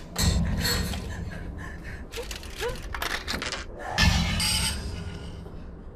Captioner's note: Heather gasping fearfully; objects clattering